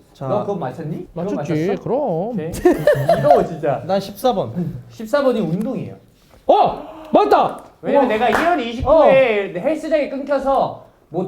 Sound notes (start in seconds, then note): 2.4 giggles